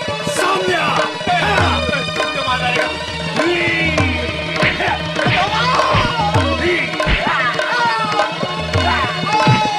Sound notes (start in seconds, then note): 5.3 groans